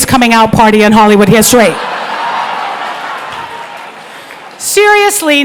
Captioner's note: crowd laughing